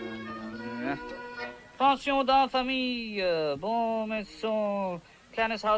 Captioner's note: speaking French